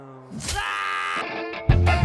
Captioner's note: slash sound